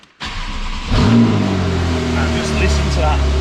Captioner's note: engine roars